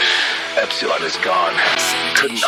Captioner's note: Static; Static